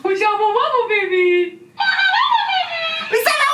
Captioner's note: mumbling; toy mumbling